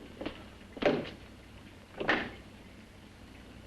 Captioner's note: latch unlocks